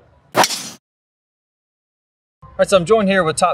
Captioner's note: club swooshes and hits ball